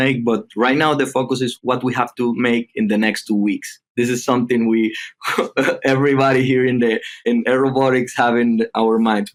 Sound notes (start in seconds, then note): 5.0 chuckling